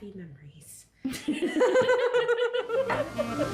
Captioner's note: laughing